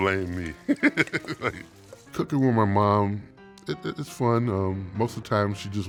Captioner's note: laughs